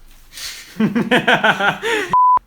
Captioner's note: laughing